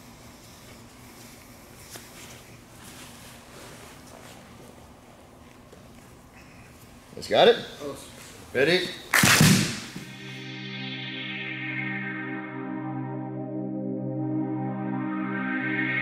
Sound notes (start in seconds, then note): 9.1 hands clap; 10.1 driving techno music